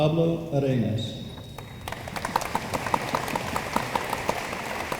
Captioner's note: room applauds